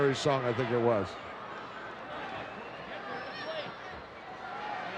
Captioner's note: crowd yelling